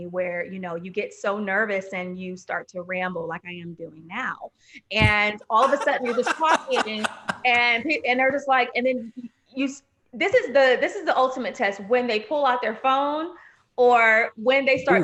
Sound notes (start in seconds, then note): 5.5 laughing